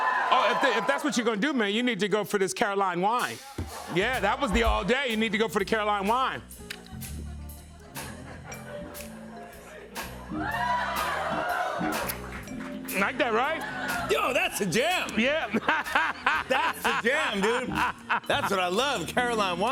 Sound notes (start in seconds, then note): 10.3 cheering; 15.1 laughter